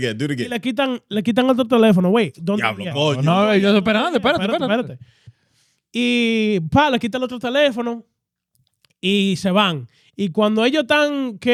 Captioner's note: speaking In Foreign Language